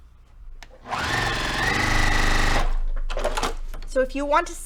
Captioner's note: sewing machine rattling